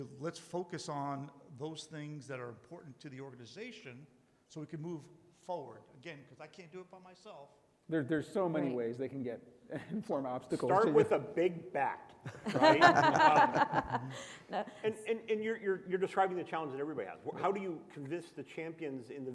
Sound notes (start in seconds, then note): 10.0 chuckles; 12.4 panelists laugh